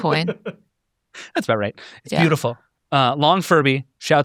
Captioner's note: laughs